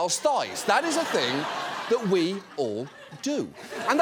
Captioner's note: audience laughs